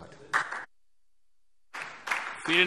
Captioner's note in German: Anhaltender Beifall SPD und DIE LINKE